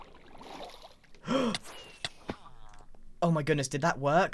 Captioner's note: gasps